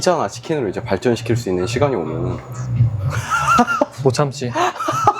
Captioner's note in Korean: 웃음